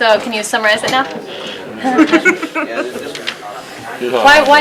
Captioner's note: laughter